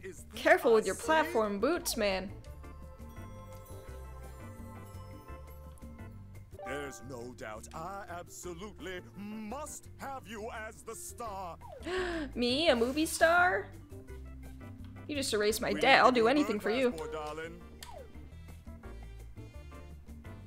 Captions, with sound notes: Careful with your platform boots, man. [GASPS] Me, a movie star? You just erased my debt. I'll do anything for you.